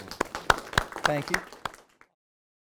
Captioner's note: all applauding